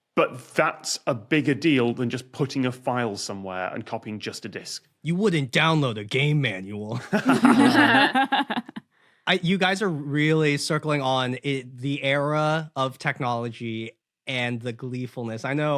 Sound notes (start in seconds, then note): 7.0 group chuckling